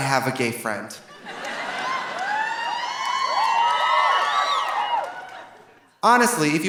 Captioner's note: audience laughing; audience cheering